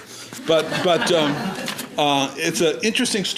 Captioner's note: laughing